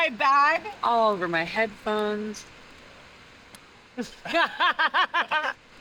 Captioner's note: laughing